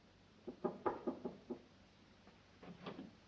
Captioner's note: knocks on door